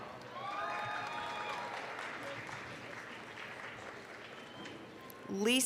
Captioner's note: applause, cheering